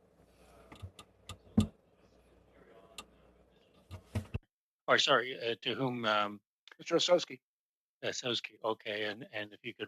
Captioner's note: speaking French